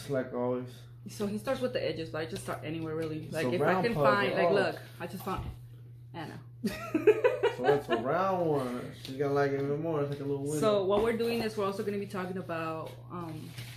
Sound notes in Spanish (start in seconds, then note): 6.6 Risas